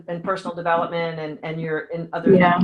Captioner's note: audio dropping